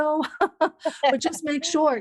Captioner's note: laughs